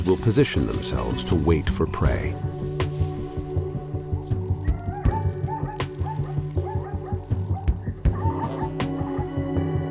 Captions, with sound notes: will position themselves to wait for prey. (light dramatic music) (hyenas barking)